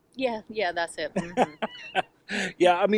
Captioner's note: laughs